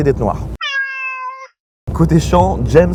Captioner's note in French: Miaulement